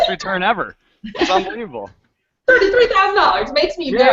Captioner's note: girls laughing